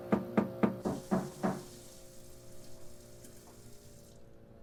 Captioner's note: knocking; running water